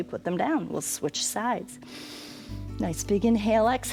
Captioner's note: inhales